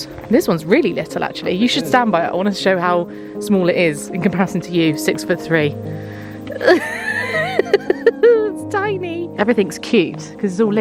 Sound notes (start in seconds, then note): 6.4 laughing